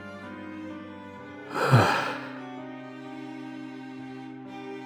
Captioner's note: sigh